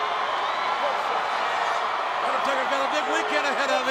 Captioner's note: crowd cheers